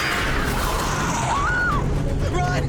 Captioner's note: Michelle screams